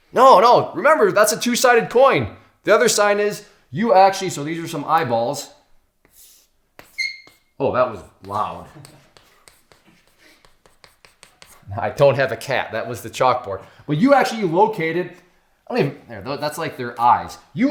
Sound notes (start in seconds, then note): 6.9 squeak